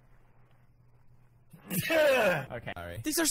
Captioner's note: another beautiful sneeze